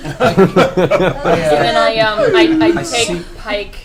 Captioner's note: all laugh